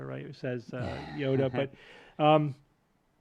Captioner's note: chuckles